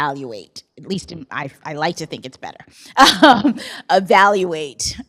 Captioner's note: laughs